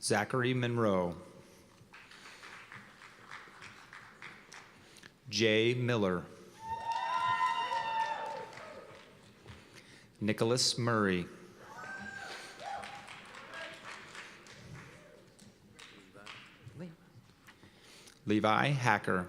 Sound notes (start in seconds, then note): 1.9 applause; 6.6 cheers and applause; 11.7 cheers and applause